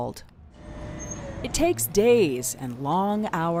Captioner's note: machine whirring